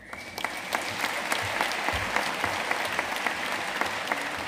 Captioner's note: audience applauding